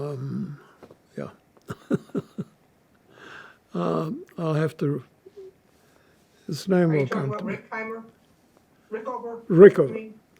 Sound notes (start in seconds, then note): 1.6 laughing